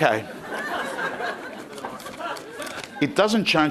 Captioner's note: crowd laughing